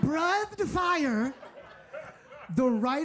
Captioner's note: audience laughing